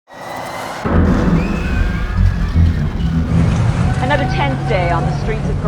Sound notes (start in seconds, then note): 0.1 crowd hollers & screams